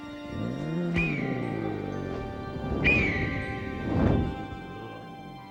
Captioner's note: dinosaur groans; dinosaur screeches